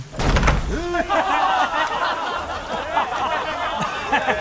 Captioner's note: the crowd roars with laughter and jeers incessantly